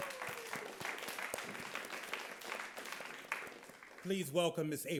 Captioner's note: audience claps